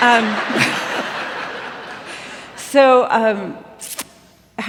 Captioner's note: laughter